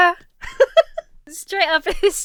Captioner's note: Emma laughs